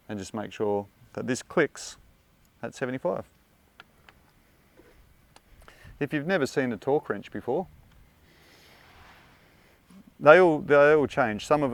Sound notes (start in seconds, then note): none